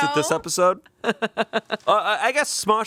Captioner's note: laughing